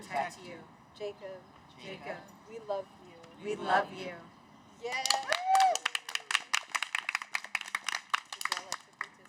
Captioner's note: cheers